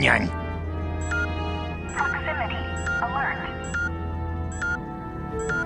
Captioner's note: beeping